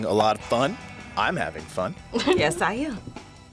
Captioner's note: laughs